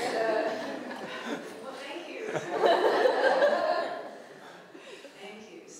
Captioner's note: laughter